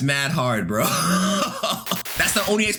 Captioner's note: laughing